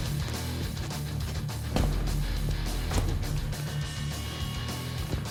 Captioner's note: blade impact sounds